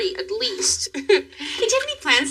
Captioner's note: chuckles